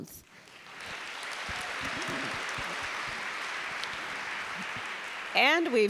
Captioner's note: applause